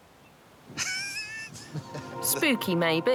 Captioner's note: laughs